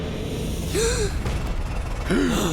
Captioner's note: gasping